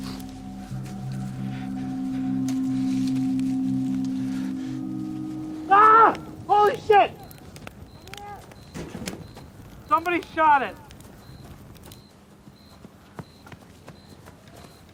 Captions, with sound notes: (man screams) - Somebody shot him.